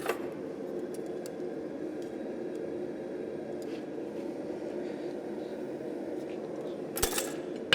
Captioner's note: furnace blasting in the background